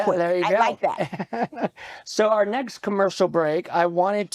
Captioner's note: chuckles